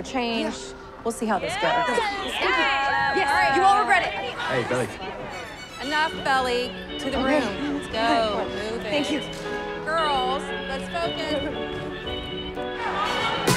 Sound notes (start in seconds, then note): 1.5 teammates cheering; 5.3 upbeat pop music; 7.1 giggling